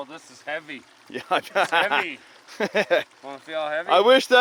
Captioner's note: laughing